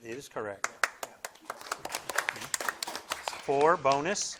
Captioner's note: audience applauding